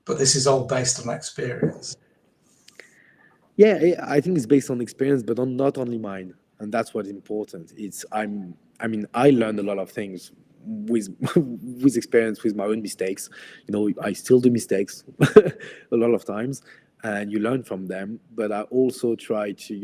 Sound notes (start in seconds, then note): 15.2 laughs